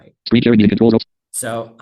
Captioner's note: screen reader narrating extremely rapidly